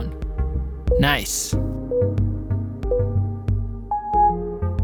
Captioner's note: timer beeping